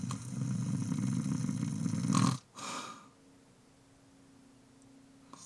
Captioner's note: snoring